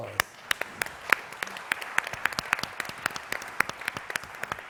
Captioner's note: audience clapping